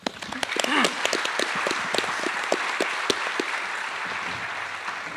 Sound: attendees applauding

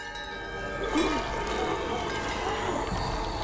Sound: chimes sound

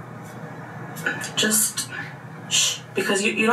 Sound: shushes

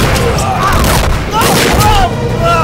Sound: gunshot

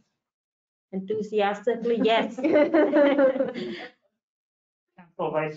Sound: all laugh

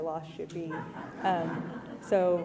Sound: audience laughing

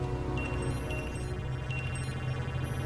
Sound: beeps

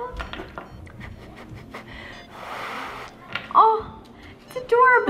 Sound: blowing noise

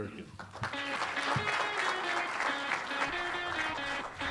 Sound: applause

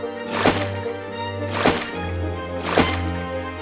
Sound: water splash sound

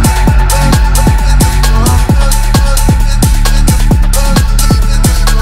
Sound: cut-up vocalising

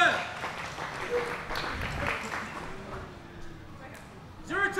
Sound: audience applauding

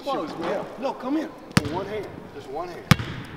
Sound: basket ball bouncing

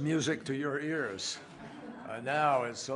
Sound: laughter

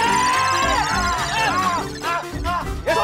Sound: screams in pain

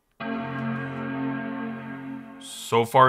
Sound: iMac powers up

